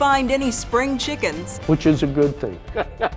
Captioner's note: laughing